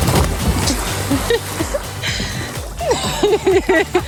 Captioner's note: laughing